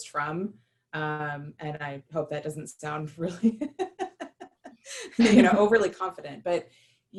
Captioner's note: laughter